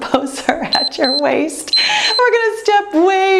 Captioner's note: timer beeps